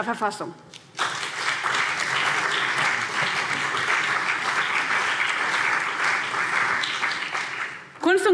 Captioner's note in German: Beifall CDU und BÜNDNIS 90/DIE GRÜNEN